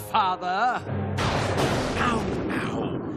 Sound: thunder crashing

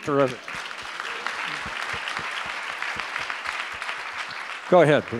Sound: audience applause

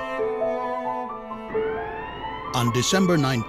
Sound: sound of sirens

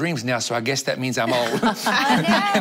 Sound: laughter

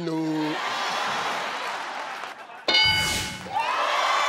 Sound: applause

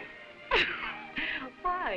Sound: Baroness laughing

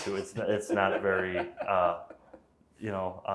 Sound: laughing

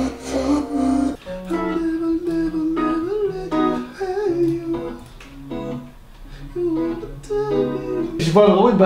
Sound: humming

